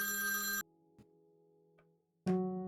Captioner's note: phone Rings and Vibrates; phone Stops Ringing